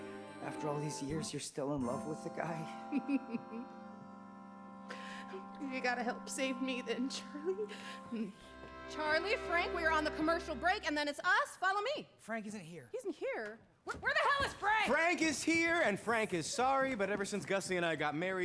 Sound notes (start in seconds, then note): 2.7 chuckling; 5.5 voice breaking